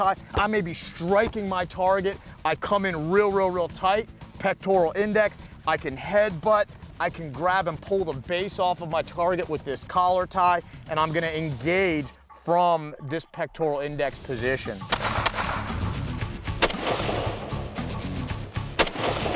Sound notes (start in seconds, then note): 14.9 gunshots; 16.1 exciting music